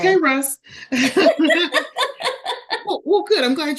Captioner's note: laughter